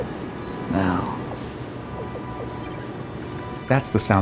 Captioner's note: monitor bleeps